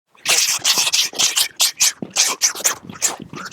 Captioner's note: fighting noises